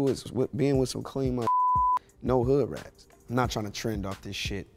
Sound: beep

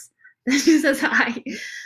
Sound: laughs

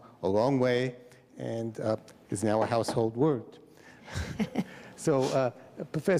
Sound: chuckles

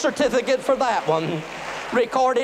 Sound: applause

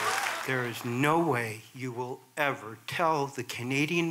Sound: applause

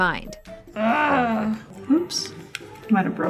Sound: grunting

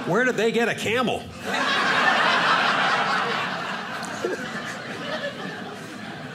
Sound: audience laughing

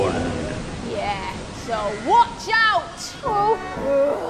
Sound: storm fades away

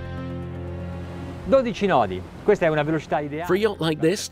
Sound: cinematic electronic music; speaking in Italian

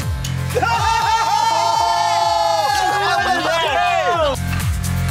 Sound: oohing and laughing; screaming and cheering

